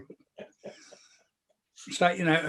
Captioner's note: chuckles